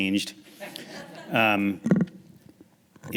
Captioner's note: laughing